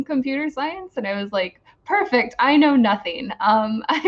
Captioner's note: laughs